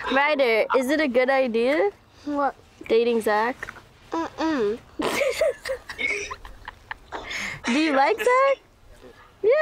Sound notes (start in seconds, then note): 5.0 laughs